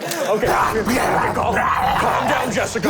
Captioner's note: snarling